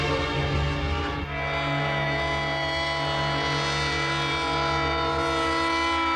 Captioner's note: train horn blaring